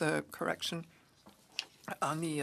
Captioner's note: speaking French